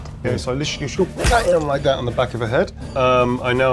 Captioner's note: pew